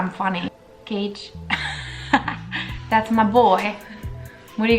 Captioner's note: laugh